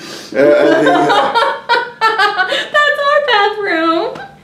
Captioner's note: laughs